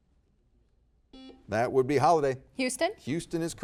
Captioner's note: buzzer beeps